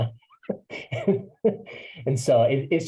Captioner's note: laugh